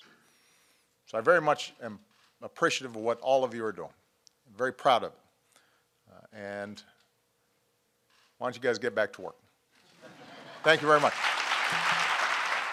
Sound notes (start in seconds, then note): 9.9 laughter; 10.5 applause